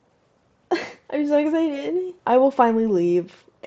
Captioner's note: laughs uncomfortably